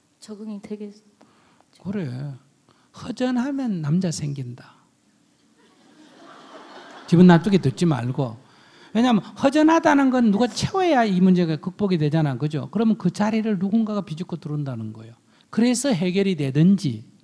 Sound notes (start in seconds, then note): 5.6 audience laughs